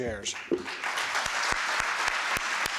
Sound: applause

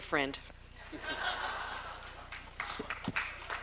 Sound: laughter

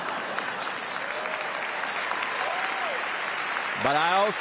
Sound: applause

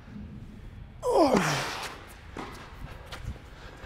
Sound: grunts

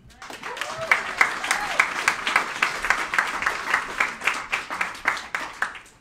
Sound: cheering and applauding

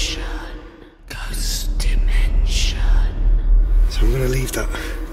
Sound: whispering Voices

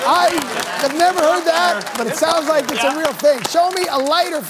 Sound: applause

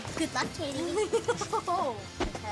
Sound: laughing

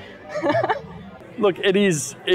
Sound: laughs

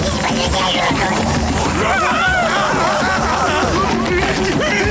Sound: screaming

